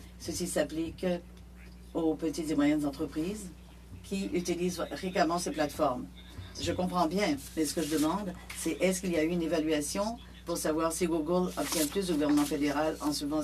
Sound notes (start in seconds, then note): 0.6 speaking French